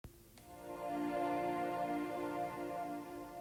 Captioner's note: futuristic sounds